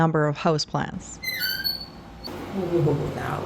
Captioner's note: fridge wheels squeaking